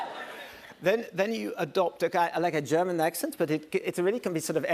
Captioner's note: German accent